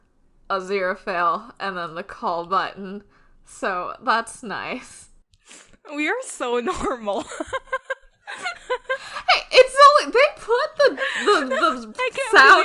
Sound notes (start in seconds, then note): 7.2 laughing